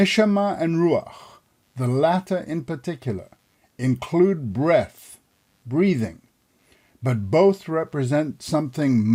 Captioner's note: breathing